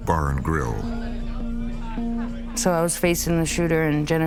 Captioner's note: people talking in background